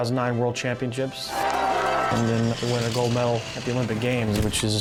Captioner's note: cheering